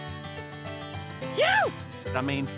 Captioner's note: yips